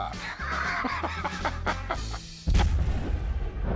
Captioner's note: laughs